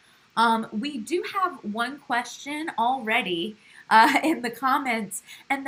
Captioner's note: laugh